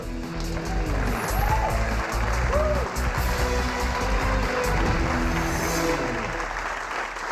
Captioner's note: cheers and applause